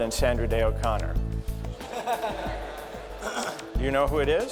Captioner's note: laughter